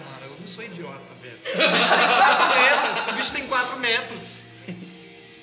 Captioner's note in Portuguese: risadas